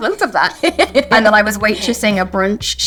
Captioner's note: Lydia laughs